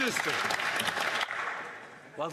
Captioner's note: some Applause